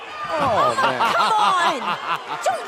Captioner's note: laughter